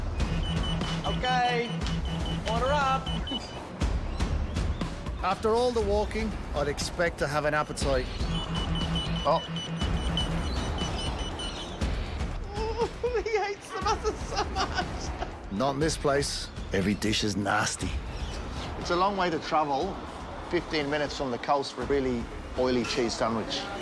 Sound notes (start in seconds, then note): 0.0 dramatic music; 0.1 beeping; 7.6 beeping; 11.4 beeping stops